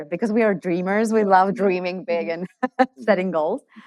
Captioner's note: laughs